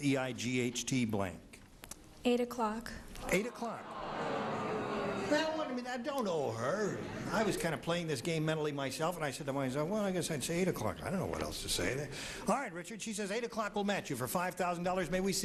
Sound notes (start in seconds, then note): 3.2 crowd groaning